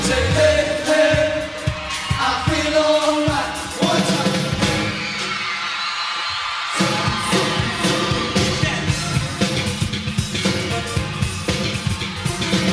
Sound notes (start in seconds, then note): 4.6 crowd cheering; 7.1 vocalizing